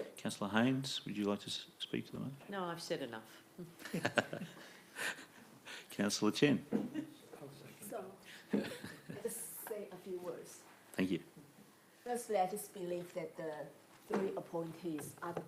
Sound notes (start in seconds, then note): 3.8 laughing